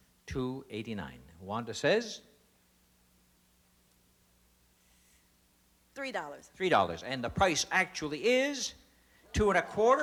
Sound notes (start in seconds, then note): none